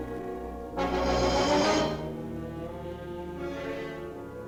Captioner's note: tank hisses; dramatic music; ominous music